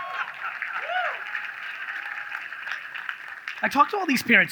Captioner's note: audience laughs; audience claps